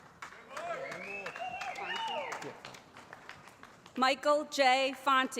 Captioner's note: audience shouting